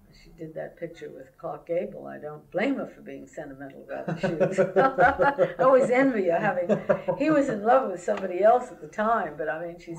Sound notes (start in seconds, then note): 4.0 laughter